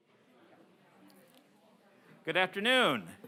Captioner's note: muffled chatter